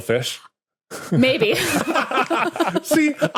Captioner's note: group laughing